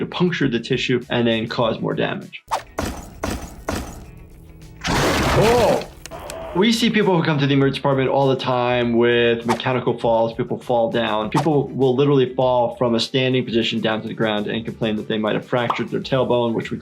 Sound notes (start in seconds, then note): 4.8 animatronic roars